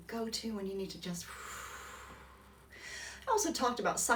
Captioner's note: exhales